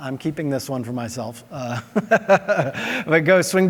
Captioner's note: laughs